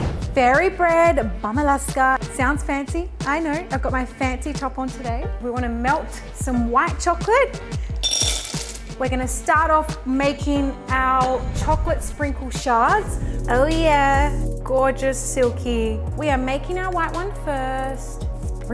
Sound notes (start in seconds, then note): 8.0 white chocolate chips clanking